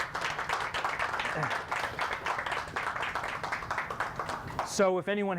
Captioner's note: clapping